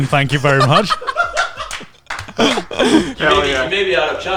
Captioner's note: group and Crew laughing